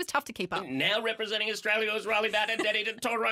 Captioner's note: calling like a horse race